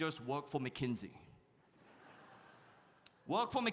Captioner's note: audience laughs